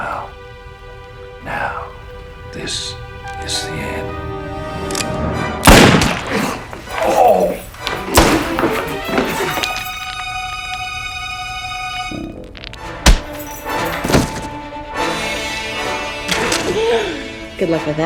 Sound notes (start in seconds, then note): 3.9 dramatic music; 5.6 gun firing; 6.2 groaning; 8.1 gun firing; 9.2 dramatic music; 13.0 smacking; 15.2 dramatic music